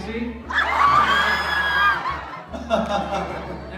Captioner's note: crowd screams; Gemini laughs